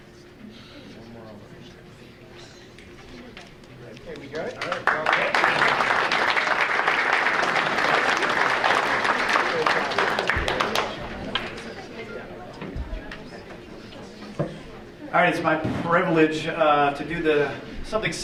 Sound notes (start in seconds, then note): 4.3 audience applauding